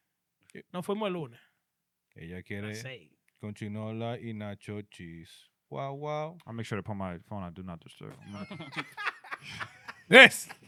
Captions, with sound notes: for my lord. (Speaking In Foreign Language) I'll make sure to put my phone, I do not disturb him. (Laughing) Yes.